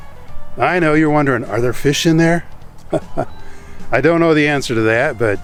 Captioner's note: chuckles